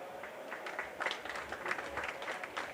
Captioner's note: applause